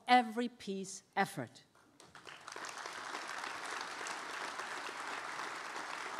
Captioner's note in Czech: Potlesk